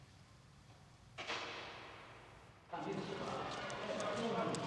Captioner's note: door slamming in distance